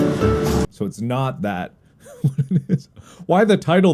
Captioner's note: chuckles